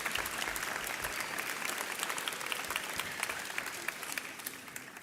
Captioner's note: audience applauds